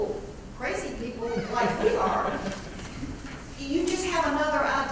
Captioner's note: laugh